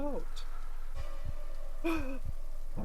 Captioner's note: exaggerated gasp